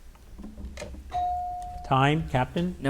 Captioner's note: bell dings